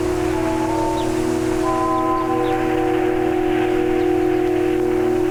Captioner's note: dramatic music; birds chirping; dramatic music